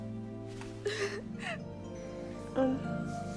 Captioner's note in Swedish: Trudy snyftande